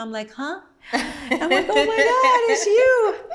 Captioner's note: laughs